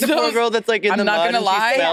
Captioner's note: participants chattering